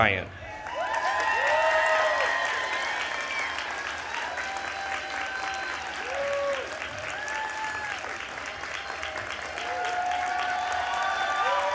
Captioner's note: applause